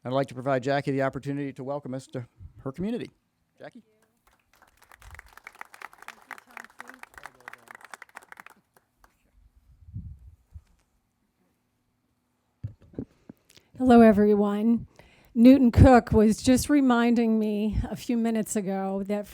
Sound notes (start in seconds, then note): 4.2 crowd applauding